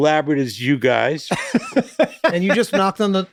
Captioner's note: Charlie laughs loudly